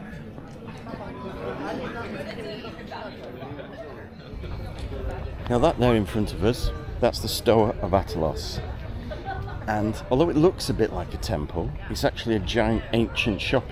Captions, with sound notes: (people chattering) Now, that now in front of us, that's the Stoa of Atalos.